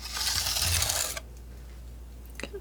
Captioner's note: scratching